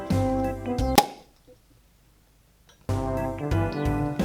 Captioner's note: champagne popping